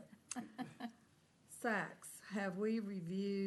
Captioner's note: laughter